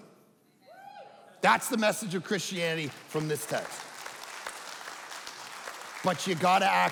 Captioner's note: audience clapping